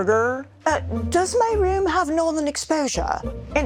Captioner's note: mockingly; British accent